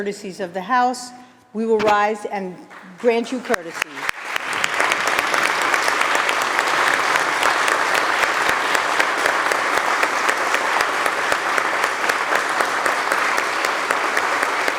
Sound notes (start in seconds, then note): 2.6 applause